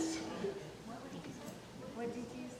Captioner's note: people murmuring